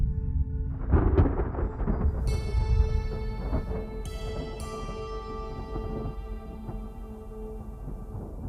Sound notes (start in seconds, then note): 0.0 slow music; 3.0 thunder